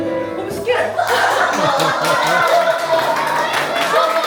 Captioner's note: laughter